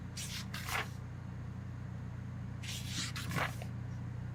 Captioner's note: papers rustle